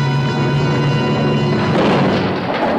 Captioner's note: boat crashing